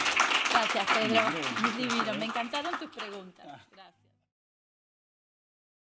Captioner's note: speaking spanish